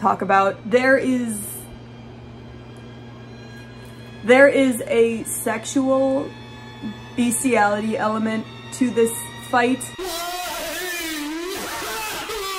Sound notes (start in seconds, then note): 0.4 tense music; 10.0 pained distorted screams